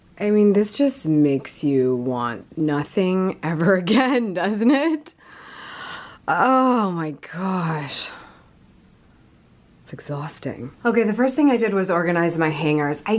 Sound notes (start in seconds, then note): 4.4 laughs